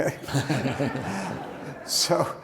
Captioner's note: audience laughs